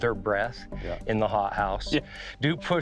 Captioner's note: giggles